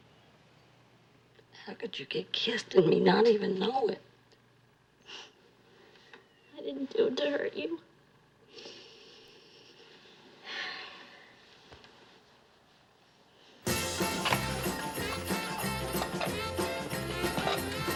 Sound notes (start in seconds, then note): 6.4 sobs; 10.0 sighs; 13.6 christmas music plays